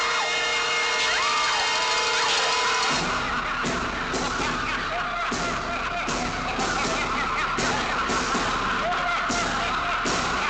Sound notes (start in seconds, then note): 2.5 men laughing